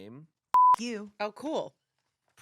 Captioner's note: beep